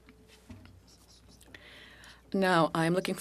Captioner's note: speaking French